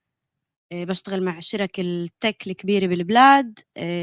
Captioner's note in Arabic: لغة أجنبية